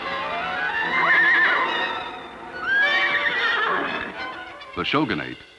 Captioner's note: horses neighing